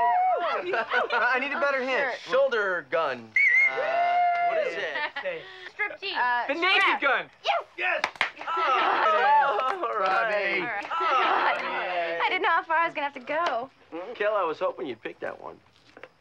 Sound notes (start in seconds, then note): 10.0 cheering, laughing